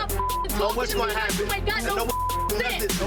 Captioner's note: beeps